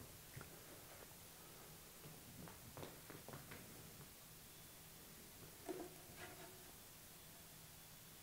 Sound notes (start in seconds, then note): 2.0 quick footsteps; 5.4 hand lightly hitting the block